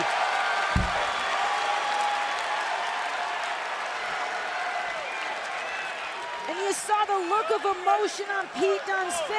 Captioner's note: crowd cheering